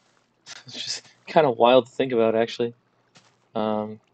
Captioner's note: laughs